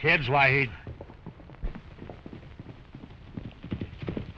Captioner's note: hooves clattering